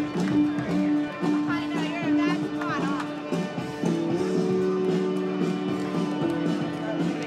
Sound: lively chatter

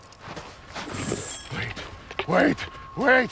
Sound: helmet rattles

